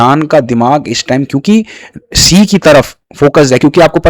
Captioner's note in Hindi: नाक से की जाने वाली आवाज़